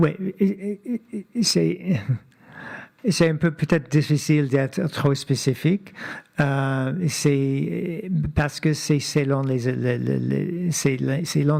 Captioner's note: speaking French